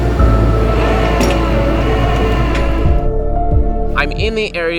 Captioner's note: tow truck winch whirring